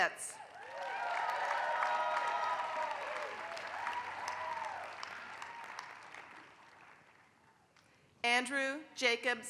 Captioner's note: applause